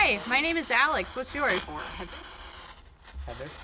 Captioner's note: spirit box voice